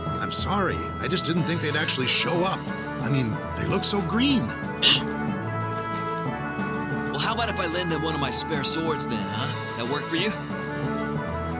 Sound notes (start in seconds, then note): 4.8 scoffs